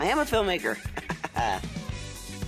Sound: laughing

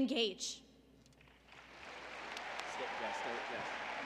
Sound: applause

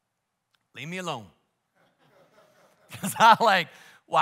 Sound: congregation laughs

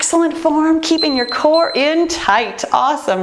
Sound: timer beeping

